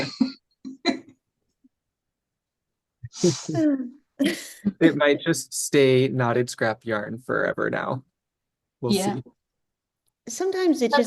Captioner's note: laughter